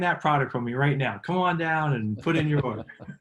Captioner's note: laughing